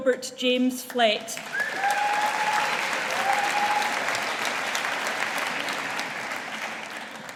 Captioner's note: audience applauding